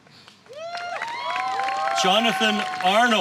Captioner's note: applause